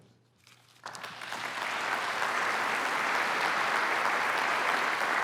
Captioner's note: applause